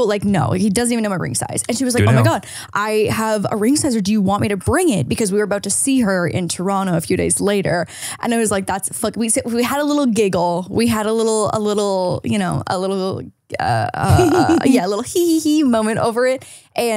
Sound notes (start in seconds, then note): 14.0 giggles